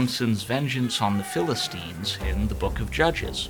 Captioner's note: Samson roaring